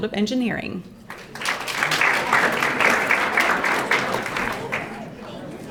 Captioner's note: audience applauding